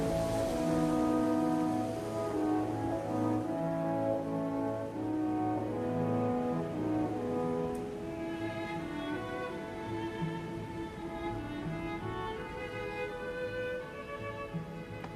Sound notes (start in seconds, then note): none